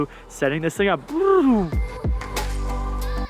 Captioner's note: flutters tongue; upbeat music